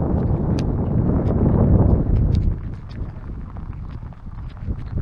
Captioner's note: water splashing